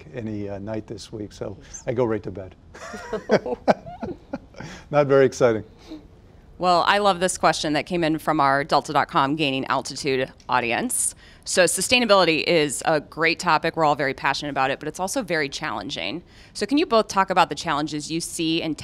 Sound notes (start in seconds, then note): 2.7 laughter